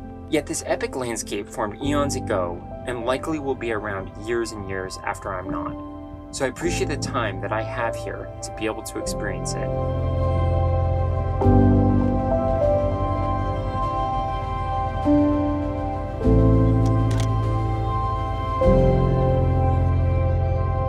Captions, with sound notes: Yet this epic landscape formed eons ago and likely will be around years and years after I'm not. So I appreciate the time that I have here to be able to experience it. [peaceful piano music] [camera clicking]